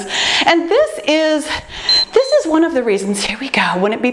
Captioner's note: timer beeps